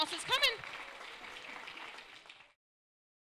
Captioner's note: applause